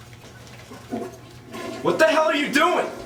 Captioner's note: toilet flushes